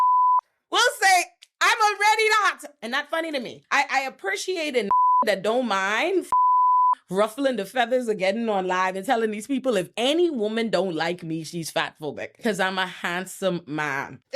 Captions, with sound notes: (beep) Will say, "I'm already the hot" and not funny to me. I appreciate a (beep) that don't mind. (beep) Ruffling the feathers are getting on live and telling these people, if any woman don't like me, she's fatphobic. Cause I'm a handsome man.